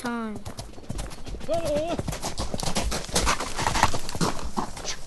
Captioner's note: hoofbeat